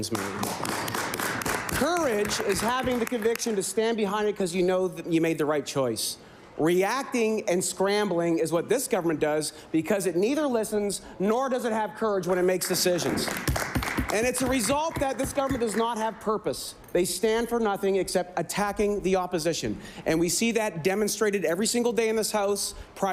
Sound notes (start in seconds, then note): 4.3 applause